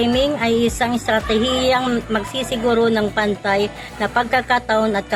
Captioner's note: speaking in foreign language